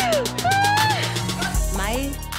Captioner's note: crying